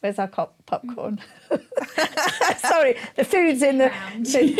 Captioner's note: laughing